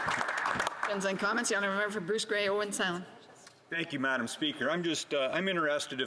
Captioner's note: some Applause